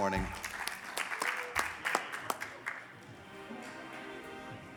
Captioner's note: audience applauding